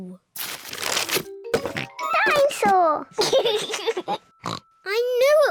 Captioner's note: rattles; oinks; laughs; oinks